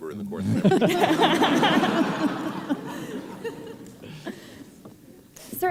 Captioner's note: laughter